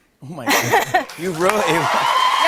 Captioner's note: cheers and applause